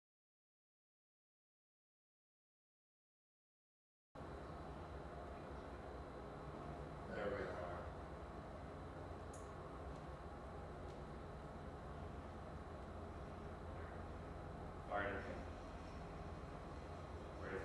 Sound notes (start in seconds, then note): 1.0 silence; 8.5 slight wind noise